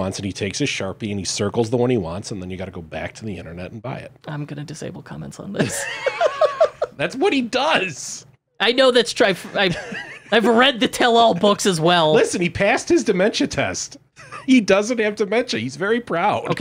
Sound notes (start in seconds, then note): 5.6 laughing